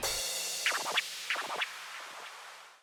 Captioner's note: record scratches